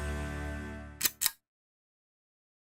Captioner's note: click